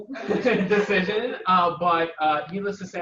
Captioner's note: audience laughing